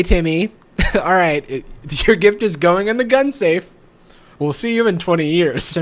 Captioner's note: chuckles